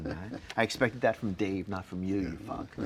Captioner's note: panel members chuckling